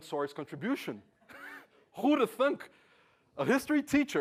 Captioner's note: laugh